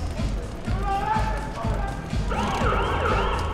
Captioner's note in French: sirène plus loin